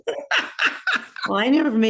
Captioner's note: laughs